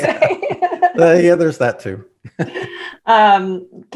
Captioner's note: laughs; laughs